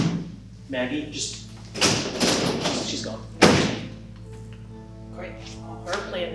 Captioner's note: door closing